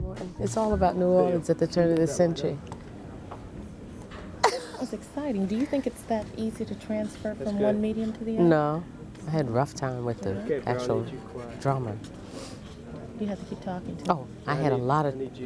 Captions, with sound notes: Toni> It's all about New Orleans at the turn of the century. (laughs) Beryl> That's exciting. Do you think it's that easy to transfer from one medium to the other? Toni> No. I had a rough time with the actual drama. Beryl> You have to keep talking to it. Toni> I had a lot of... Crew member> ...keep talking.